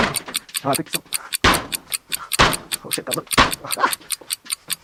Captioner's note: grunts, laughs , kicks, moans